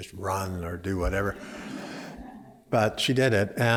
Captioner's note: laughter